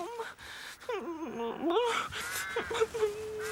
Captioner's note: sobbing